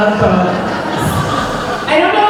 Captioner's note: laughter